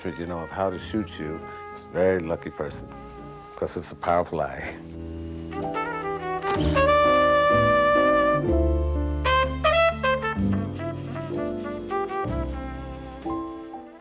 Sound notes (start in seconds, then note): 6.4 camera shutter snaps; 6.8 jazz music plays